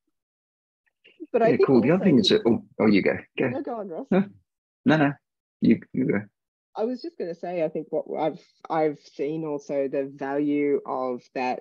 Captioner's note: laughs